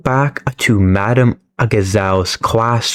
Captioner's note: none